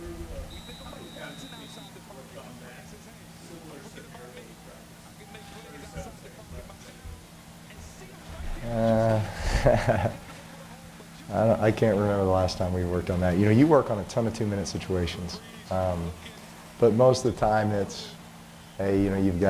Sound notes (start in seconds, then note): 9.3 laughter